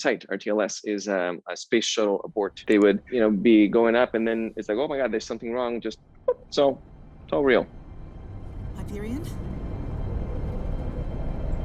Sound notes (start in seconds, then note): 6.3 makes popping sound